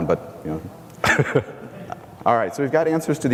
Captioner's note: laughs